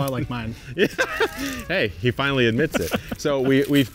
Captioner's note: laughing